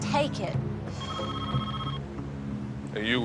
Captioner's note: phone rings